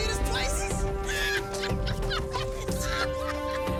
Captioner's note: laughing